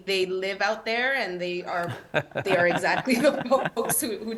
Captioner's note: laughs